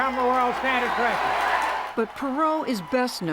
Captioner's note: cheering and applause